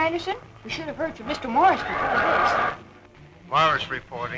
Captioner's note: warbled noise